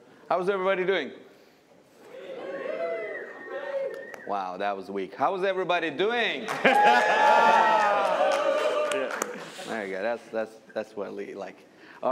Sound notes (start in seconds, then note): 2.0 cheering; 6.4 cheers, applause